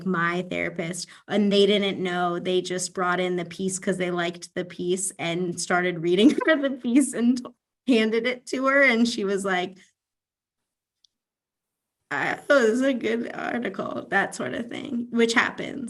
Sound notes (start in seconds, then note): 6.2 laughs